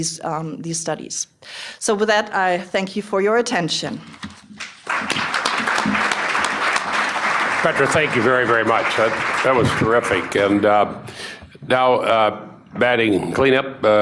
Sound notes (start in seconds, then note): 4.6 applause